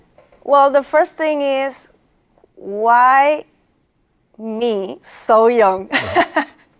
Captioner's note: laughs